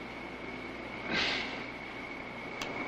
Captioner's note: sigh